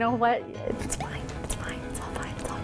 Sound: whispers

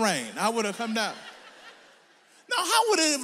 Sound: audience laughs

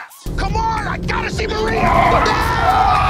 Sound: both men yelling; tires squealing

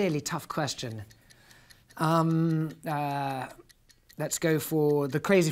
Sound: clock ticking

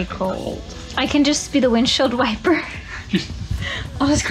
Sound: laughs

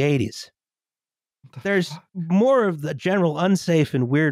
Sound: under her breath

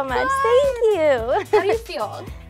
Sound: laughs

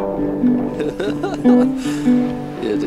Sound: laughing

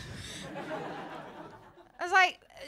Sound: laughter

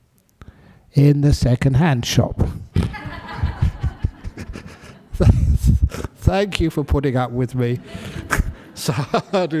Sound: laughter

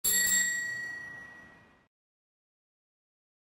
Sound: bell rings

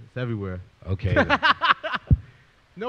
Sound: laughs

